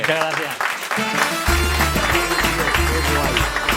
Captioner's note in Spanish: Aplausos y música